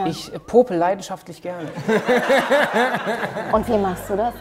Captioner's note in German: Lachen